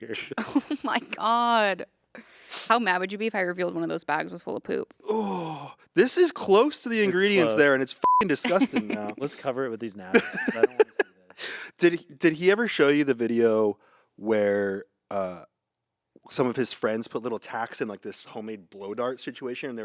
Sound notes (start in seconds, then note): 8.0 beep; 10.1 laughs